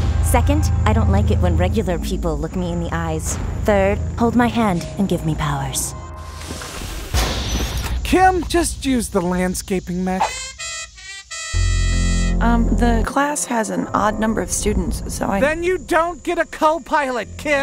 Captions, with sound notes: Second, I Don't Like it When Regular People Look Me In The Eyes Third, Hold My Hand And Give Me Powers (Door Slam) (Card Swipe) Kim Just Use The Landscaping Mech (Trumpets) Umm The Class Has An Odd Number Of Students So I- Then You Don't Get A Co-Pilot KIM!